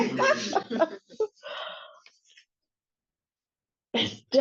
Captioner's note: laughs